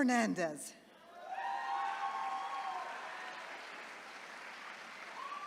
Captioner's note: attendees cheering